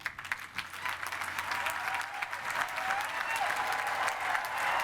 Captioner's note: cheering and applause